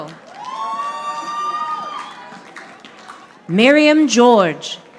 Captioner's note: audience applauding